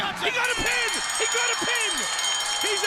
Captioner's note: bell ringing